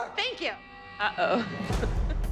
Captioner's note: chuckles